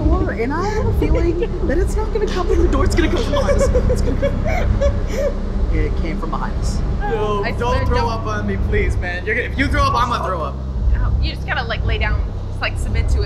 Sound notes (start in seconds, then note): 2.2 giggling nervously